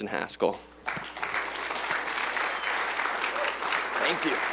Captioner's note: applause